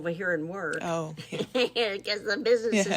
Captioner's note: laughs